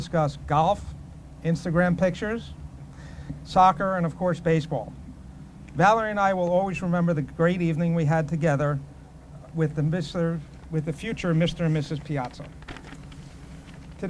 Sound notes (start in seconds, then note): none